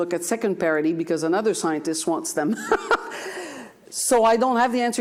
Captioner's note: laughs